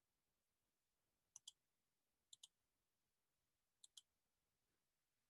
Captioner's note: mouse clicking